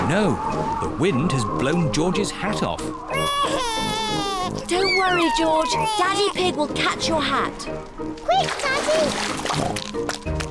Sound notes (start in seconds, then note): 3.1 cries